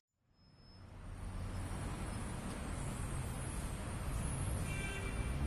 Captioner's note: street din